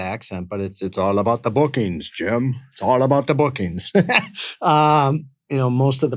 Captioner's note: laughs